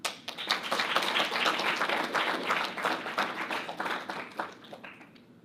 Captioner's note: audience applauding